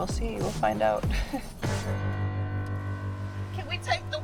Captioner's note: laughs